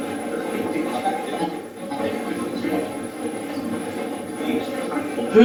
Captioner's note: static playback transmitting